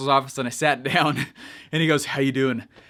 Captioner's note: chuckles